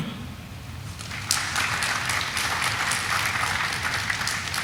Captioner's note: audience applauding